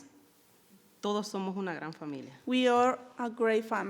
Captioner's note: speaking in foreign language